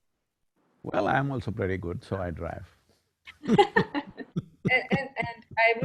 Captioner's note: both laugh